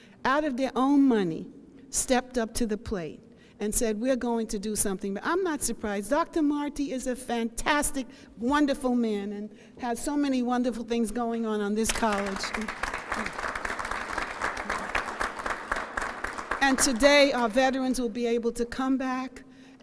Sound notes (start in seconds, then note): 11.8 applause